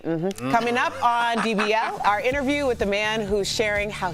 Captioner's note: laughter